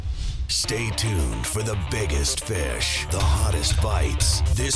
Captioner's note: voiceover